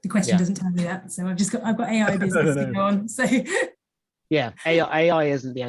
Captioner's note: laughs